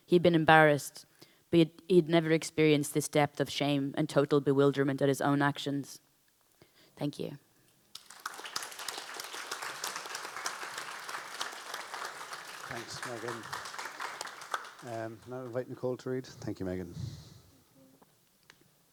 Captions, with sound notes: He'd been embarrassed, but he'd never experienced this depth of shame and total bewilderment at his own actions." Thank you. (audience applauds) (panelists applaud) - Thanks, Megan. Now invite Nicole to read. Thank you, Megan. - Thank you.